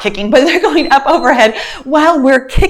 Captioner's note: timer beeps